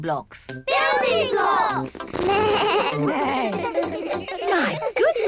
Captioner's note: all laugh